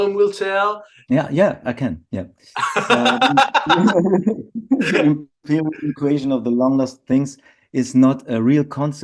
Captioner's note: laughter